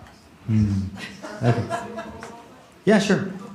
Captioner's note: laughter